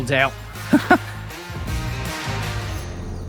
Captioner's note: laughs